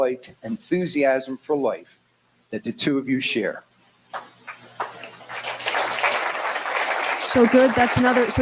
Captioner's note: applause